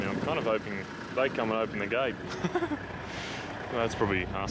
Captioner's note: laugh